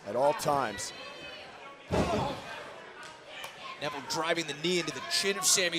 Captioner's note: crowd chatter